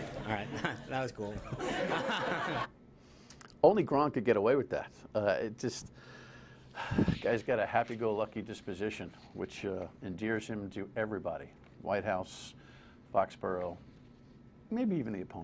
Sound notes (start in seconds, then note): 1.4 laughter